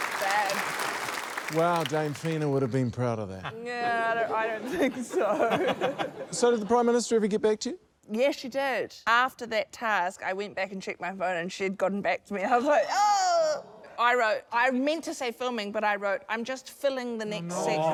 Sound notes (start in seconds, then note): 0.0 applause; 5.9 laughter